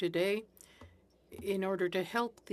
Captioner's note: speaking French